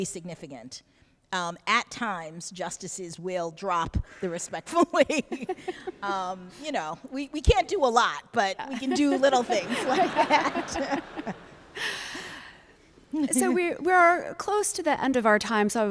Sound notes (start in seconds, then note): 10.9 laughter